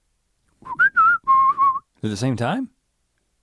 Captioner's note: whistles melodically